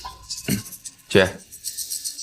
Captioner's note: coughs